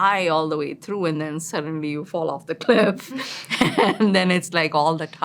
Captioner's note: laughs